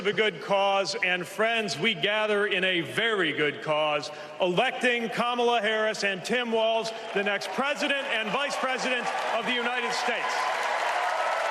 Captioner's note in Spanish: Aplausos